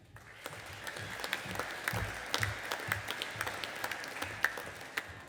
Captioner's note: audience applauding